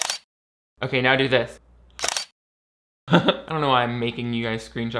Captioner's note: camera snapping; camera snapping